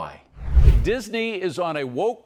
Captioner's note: air whooshing